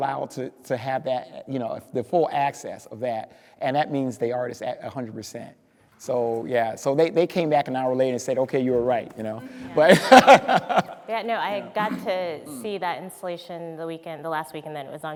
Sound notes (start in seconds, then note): 9.5 speaker laughing